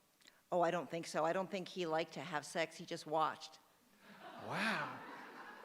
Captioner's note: laughter